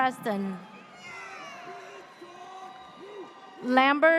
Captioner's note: audience cheers